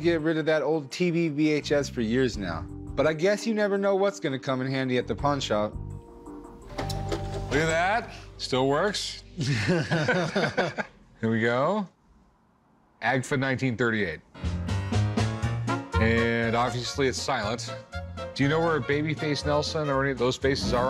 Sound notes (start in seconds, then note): 9.4 both chuckle